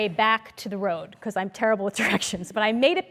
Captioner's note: laugh